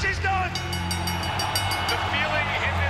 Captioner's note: bell ringing